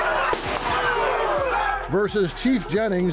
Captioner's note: gun bangs